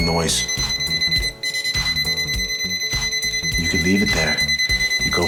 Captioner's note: tester beeping